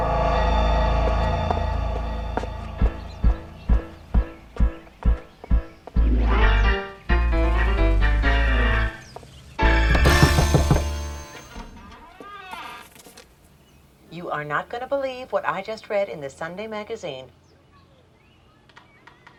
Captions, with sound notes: (playful music) (knocking) - You are not gonna believe what I just read in the Sunday magazine.